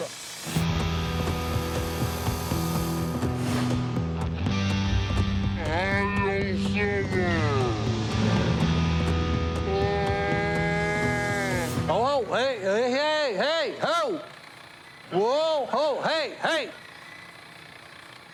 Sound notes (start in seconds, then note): 4.5 voice slowed down